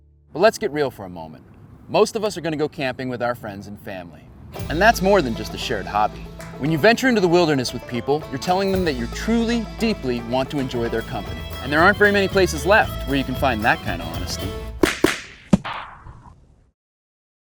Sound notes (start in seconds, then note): 14.8 whip cracking